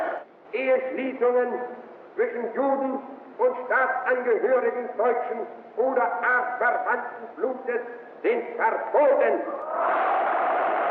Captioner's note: german language